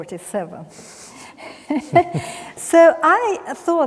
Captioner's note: both chuckling